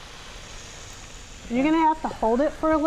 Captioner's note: sizzling